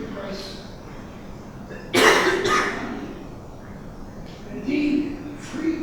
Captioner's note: coughing drowns out speaker